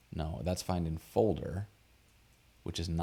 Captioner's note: none